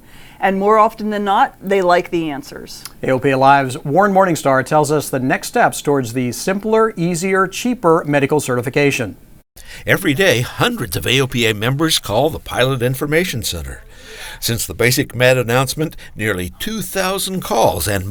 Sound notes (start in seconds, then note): 9.6 voiceover